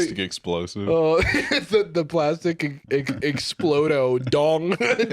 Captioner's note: laughing